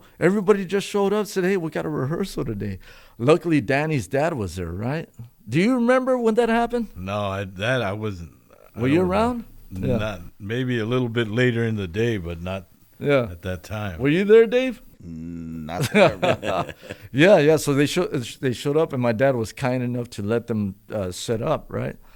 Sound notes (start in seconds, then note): 15.7 laughter